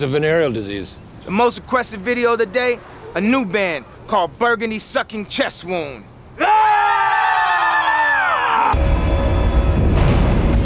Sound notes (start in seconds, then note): 7.0 shouting